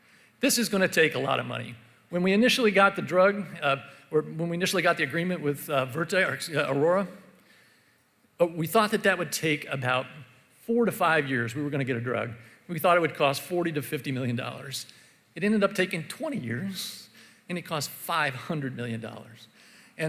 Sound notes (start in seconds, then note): none